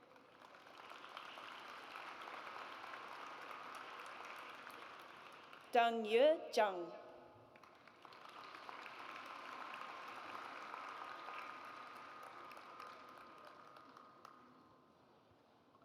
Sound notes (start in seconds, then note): 0.0 audience applauds; 7.5 audience applauds